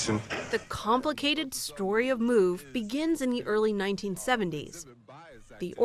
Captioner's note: voice-over